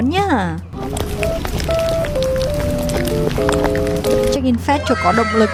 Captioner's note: asmr eating sound